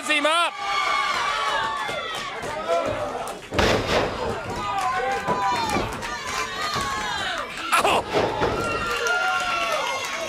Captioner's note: crowd chatter